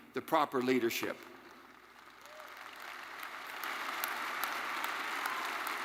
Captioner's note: attendees applauding